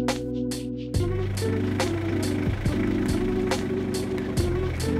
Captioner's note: car engine roaring